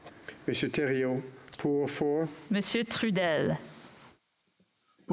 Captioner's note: speaking French